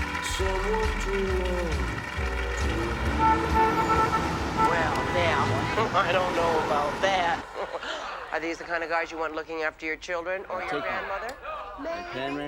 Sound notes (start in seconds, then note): 1.8 audience applauding; 3.3 car horns honking